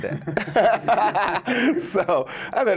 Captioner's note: laughs